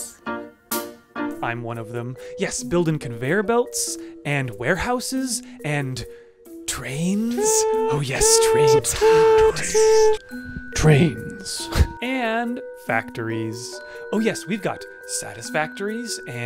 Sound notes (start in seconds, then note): 7.4 tooting in background; 10.3 demonic voice